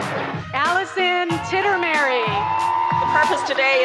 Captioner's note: cheering